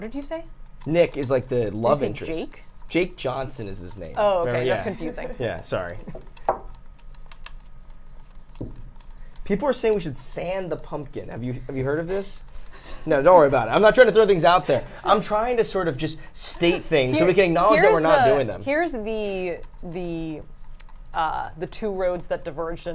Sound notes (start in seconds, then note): 13.2 chuckles